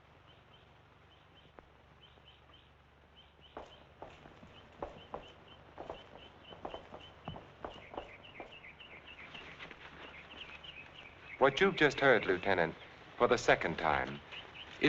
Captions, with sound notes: (birds chirping) (footsteps thumping) (birds chirping) What you've just heard, Lieutenant, for the second time,